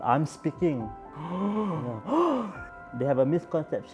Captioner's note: both gasp sarcastically